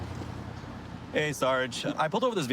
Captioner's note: none